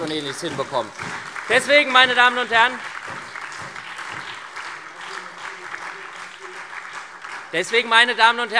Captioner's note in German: Beifall SPD, Freie Demokraten und DIE LINKE